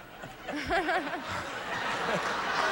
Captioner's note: audience laughing